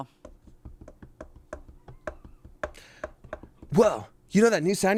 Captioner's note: taps fingers